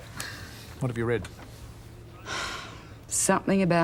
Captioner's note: sighs